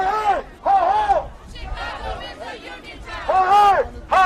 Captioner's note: chanting